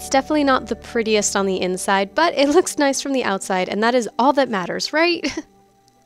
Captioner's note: giggle